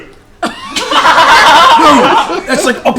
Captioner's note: laughter